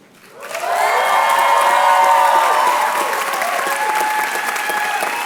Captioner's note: applause